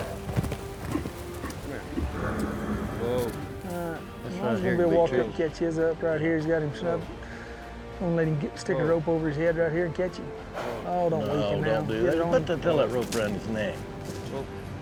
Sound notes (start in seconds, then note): 0.0 hoofbeats; 10.5 horse blusters